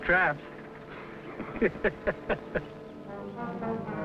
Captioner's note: laughing